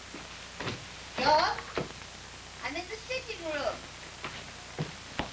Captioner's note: gran, calling